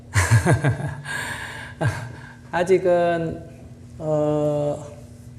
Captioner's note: laughs